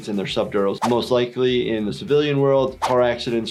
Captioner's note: none